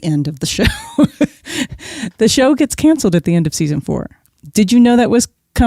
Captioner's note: guffaw